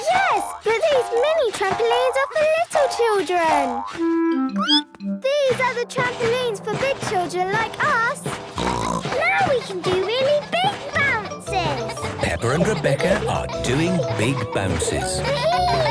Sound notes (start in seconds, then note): 4.5 squeaks; 8.8 snorts; 15.6 giggles